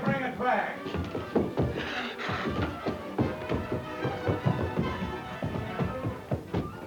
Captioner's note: footsteps plodding; dramatic music